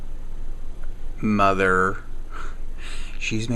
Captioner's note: chuckles